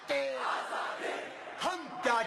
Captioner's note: crowd screaming